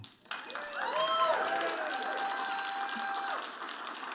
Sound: audience applauding

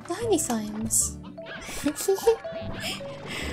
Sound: giggling

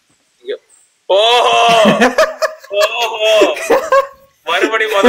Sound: attempts evil laugh

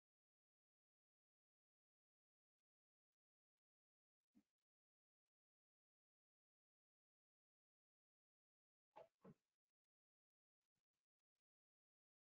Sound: audio cuts out

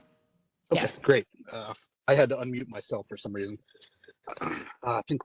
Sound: cough

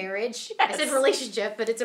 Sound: laughing

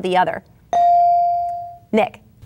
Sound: bell dinging

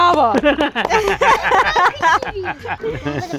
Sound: laughter

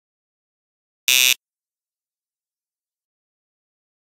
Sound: sound of game show buzz in

